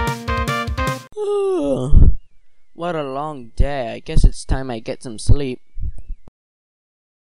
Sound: yawns

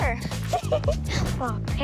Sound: chuckles

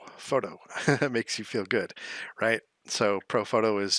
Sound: laughs

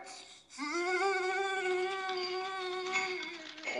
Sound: whimpering

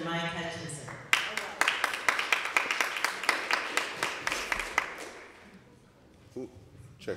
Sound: applause

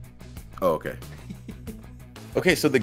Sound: laugh

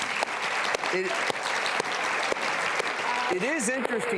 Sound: applause

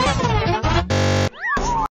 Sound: buzzing

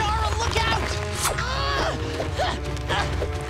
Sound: groaning

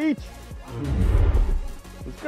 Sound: dinosaur roars

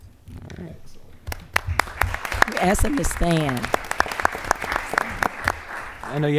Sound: applause

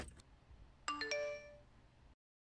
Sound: smartphone Indicator Sound

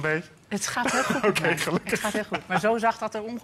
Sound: laughs

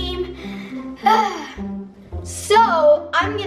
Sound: sighs

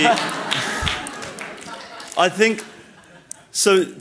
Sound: audience laughing and applauding

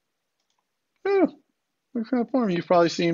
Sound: sighs

